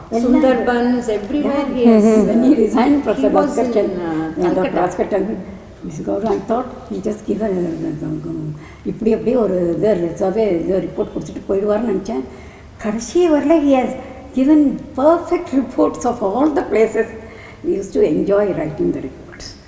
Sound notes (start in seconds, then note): 8.0 in Tamil